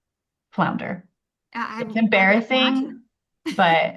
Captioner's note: laughs